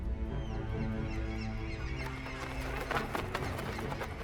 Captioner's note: birds chirping